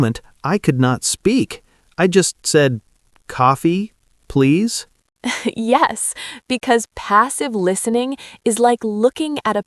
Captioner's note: laughs